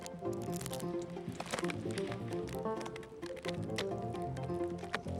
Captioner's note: tree cracking